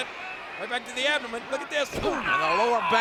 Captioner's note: blow thudding